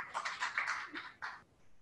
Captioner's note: audience claps